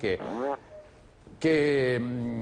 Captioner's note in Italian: rumore di peto